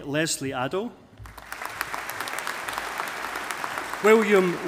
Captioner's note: audience applauding